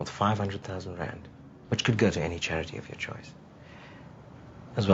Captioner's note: none